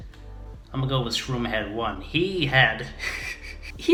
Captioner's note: laughs